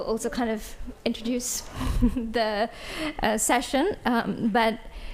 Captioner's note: chuckles